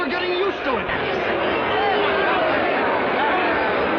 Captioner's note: shouting